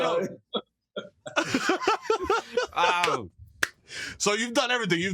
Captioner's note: laughter